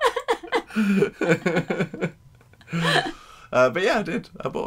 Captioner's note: laughing